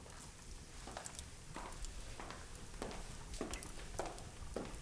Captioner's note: shoes click